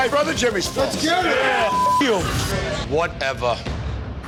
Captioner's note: beep